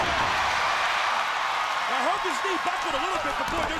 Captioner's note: crowd cheering